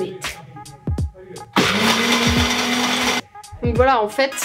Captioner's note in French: Bruit du mixeur